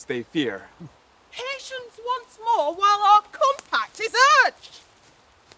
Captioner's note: Rosalind, shouting